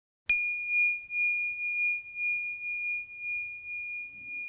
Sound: bell ringing

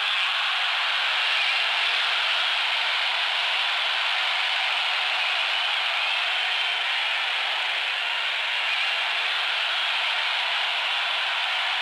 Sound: cheering

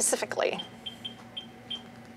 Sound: device beeping

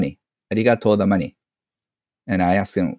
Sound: in foreign language

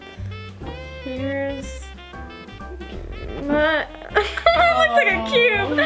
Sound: laughs

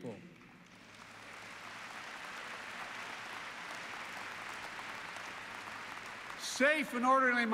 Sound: applause

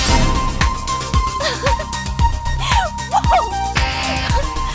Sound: laughs

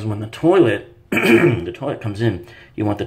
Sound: clears throat

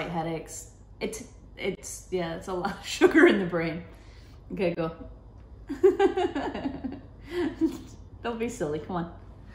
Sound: laughing

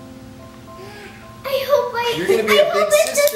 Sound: gasps

